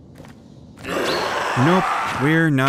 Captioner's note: spirit roars